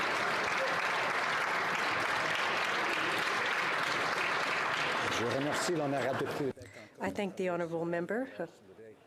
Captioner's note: applause